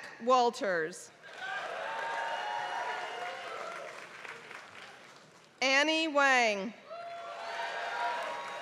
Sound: applause; applause

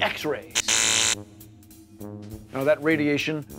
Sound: zapping sound

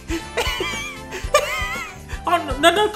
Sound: wheezing

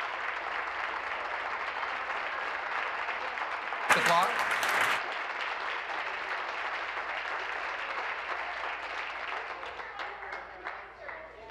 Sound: applause

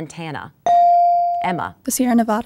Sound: dinging

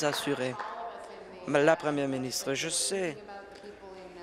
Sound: applause

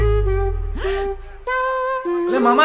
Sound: gasp

